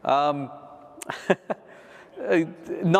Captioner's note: laughs